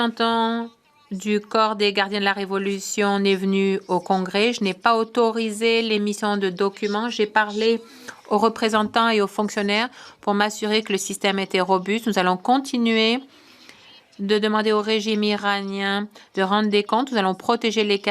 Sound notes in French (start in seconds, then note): 1.8 voix de l'interprète